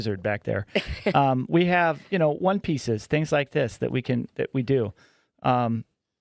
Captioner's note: laughing